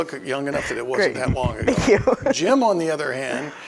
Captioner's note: laughing